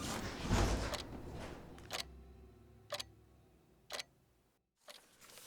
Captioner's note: ticking clock